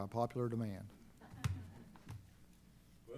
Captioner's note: chuckling